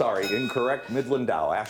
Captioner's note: bell dinging